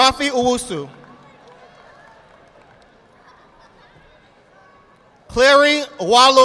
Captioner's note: audience applauding